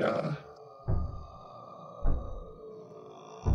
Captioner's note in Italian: colpi al portone in lontananza